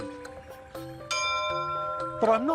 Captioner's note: bell rings